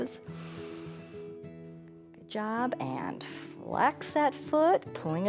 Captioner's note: inhales